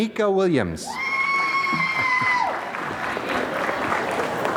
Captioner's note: applause